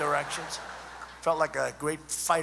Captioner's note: laughter